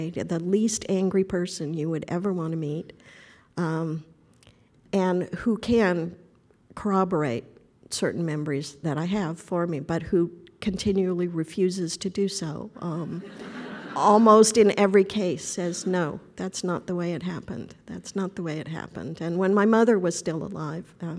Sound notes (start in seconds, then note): 13.2 audience laughter